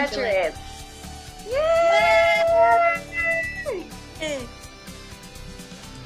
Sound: cheering

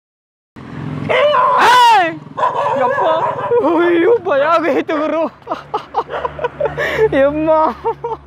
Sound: screm

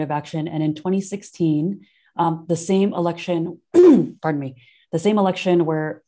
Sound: coughs

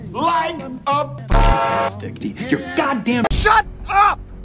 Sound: interrupts; honk

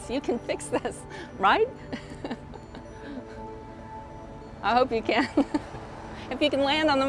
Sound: laughing

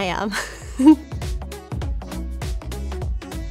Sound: laughs; upbeat music

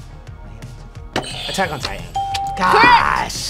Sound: bell rings; buzzer rings

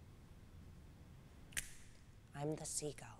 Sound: snapping fingers

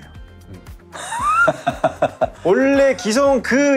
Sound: laughter

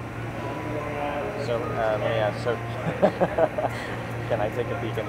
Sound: mysterious tones; mutual mild laughter

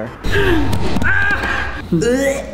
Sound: hits couch and yells

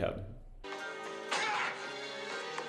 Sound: whack

